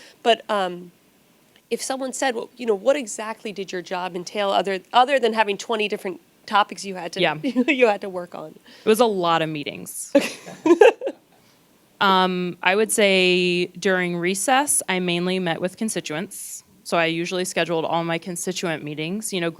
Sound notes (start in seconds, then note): 10.1 laughs